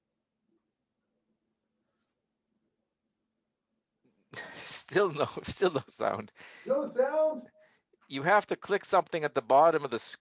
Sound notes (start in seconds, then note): 4.4 chuckling